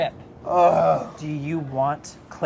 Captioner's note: groans